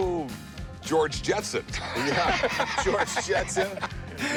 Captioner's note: laughs